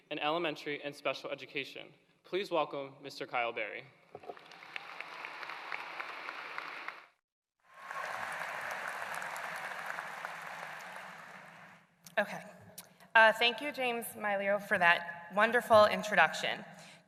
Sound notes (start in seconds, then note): 4.3 applause